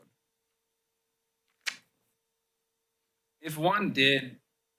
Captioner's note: pause